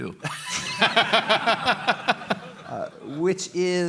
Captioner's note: laughter